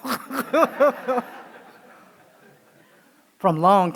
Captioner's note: laughing